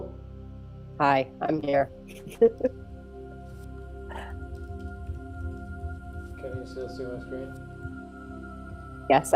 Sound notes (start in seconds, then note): 2.1 laughs; 4.8 keyboard clicking